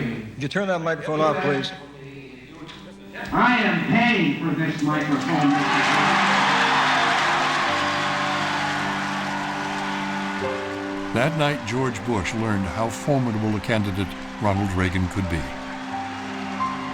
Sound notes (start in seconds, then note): 6.3 cheering and applause